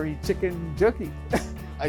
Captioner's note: laughing